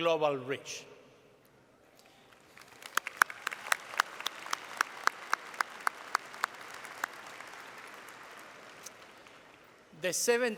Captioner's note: applause